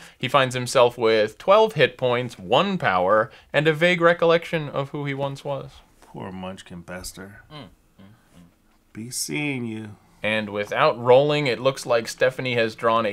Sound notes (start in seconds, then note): 7.5 disapproving hum